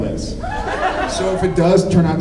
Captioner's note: laughs